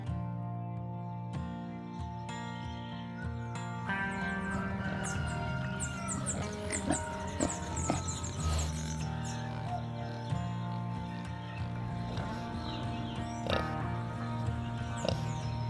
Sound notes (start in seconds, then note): 3.9 rooster crows; 5.6 pig snorts